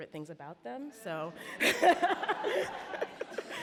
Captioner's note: laughing